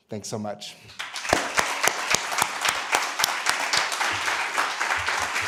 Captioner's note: applause